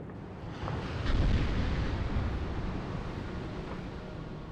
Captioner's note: crashing into Water